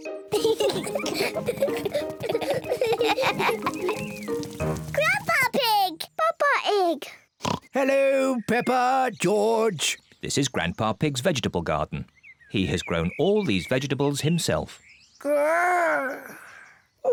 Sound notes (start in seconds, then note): 0.3 both laugh; 7.4 oinks